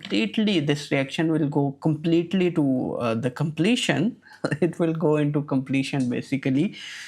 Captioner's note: chuckles